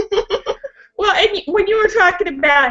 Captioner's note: laughing